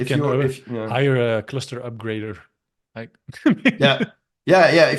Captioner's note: chuckles